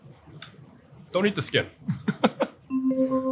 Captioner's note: laughs; gentle chiming music